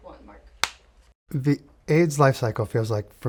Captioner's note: director slates the clapperboard